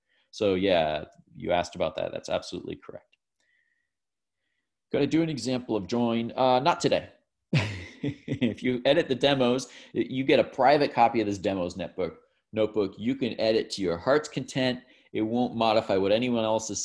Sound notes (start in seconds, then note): 7.5 laughs